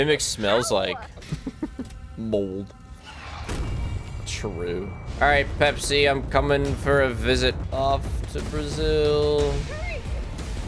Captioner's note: laughs